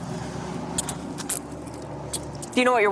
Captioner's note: handcuffs clicking